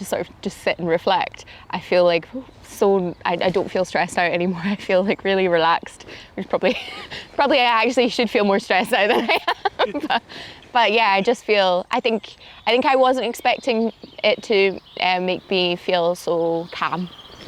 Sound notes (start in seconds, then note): 8.8 laughs